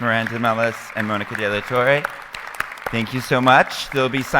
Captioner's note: audience applauding